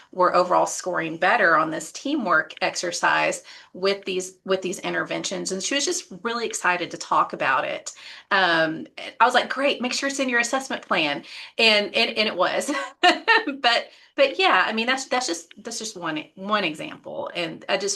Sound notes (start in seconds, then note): 12.9 chuckles